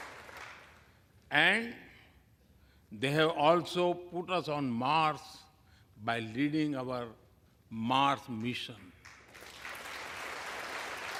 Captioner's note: applause